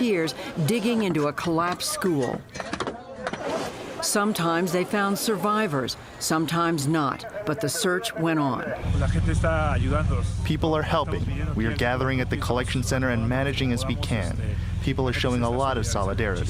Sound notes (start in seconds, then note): 9.7 through translator